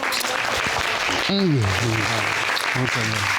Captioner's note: judge dana laughing; audience applauding